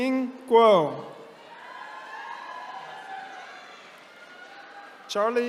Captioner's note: attendees cheering